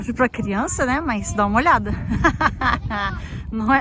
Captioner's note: laughs